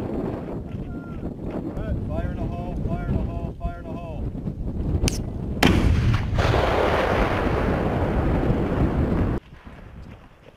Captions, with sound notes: "Fire in the hole fire in the hole, fire in the hole!" (loud explosion)